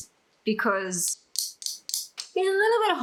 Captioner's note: tap tap tap